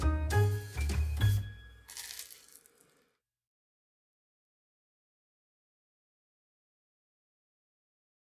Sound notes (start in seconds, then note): 1.8 toast crunches